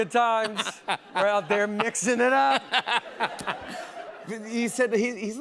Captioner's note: laughs